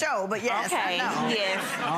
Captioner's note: audience laughing